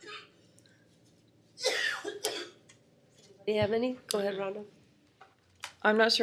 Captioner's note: coughing